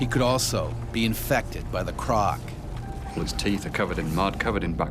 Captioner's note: voiceover